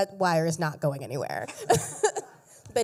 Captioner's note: laughter